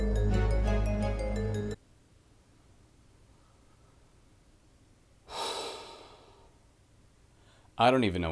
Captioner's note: sigh